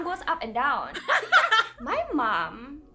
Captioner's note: everyone laughs